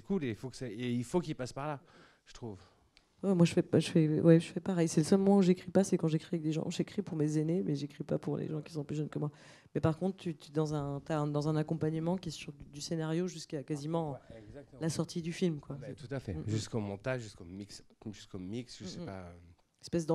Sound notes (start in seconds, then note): none